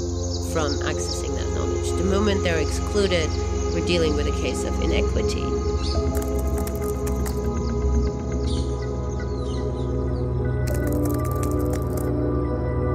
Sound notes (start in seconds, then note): 6.1 keyboard clicking sound